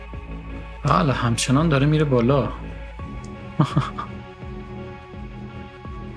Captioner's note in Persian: خنده